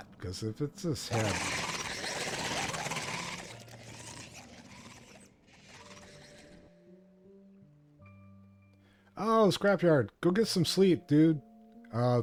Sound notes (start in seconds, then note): 4.3 shovel scraping